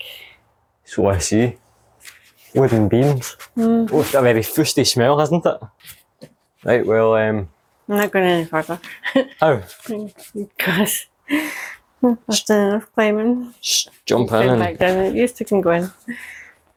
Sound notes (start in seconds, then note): 8.9 laughter